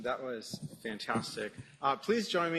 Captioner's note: applause